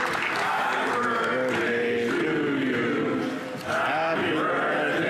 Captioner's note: applause